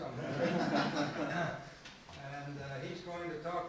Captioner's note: laughing